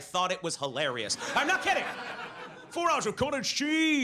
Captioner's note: audience laughs